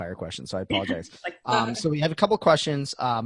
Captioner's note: laughing